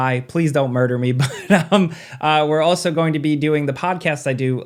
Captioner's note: chuckles